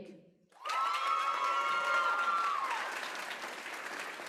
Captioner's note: applause